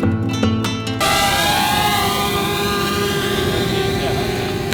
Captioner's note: bzzzzzzzzzzzzzzzzzzzzzzzzzzzz